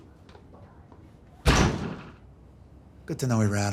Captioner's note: door slams